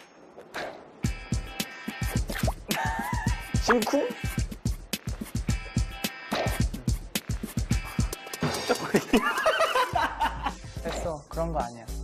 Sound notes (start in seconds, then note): 8.5 cracks up